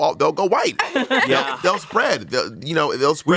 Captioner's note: everyone laughs